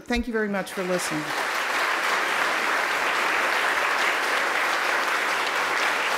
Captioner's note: applauding